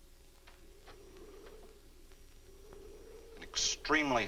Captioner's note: muffled wind howls